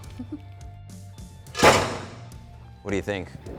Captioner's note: chuckles